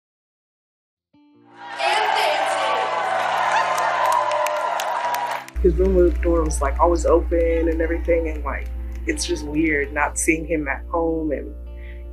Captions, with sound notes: [cheering, muffled loudspeaker announcement] His room door was, like, always open and everything, and like, it's just weird not seeing him at home